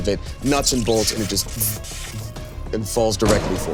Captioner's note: imitates electricity crackling